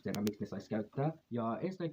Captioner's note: in Spanish